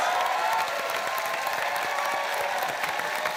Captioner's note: cheering, applause